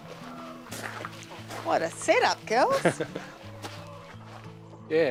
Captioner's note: chuckles